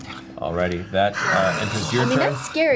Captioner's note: growls